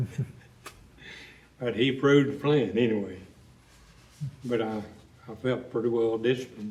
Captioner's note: laughs